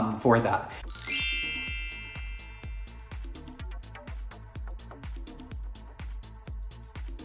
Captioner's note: chimes ringing; upbeat instrumental music